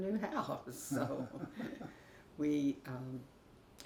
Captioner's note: both laugh